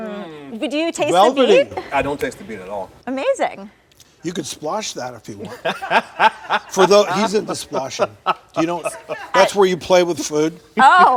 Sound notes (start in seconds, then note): 5.4 male guest chuckles